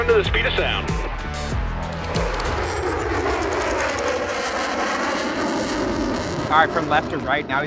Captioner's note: robust music; aircraft humming